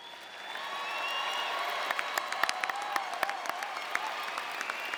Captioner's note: audience applauding